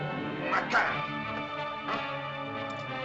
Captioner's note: suspenseful music; Akhoba speaks in caveman language; suspenseful music